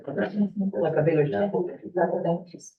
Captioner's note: chatter